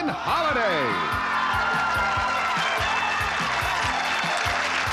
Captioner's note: cheering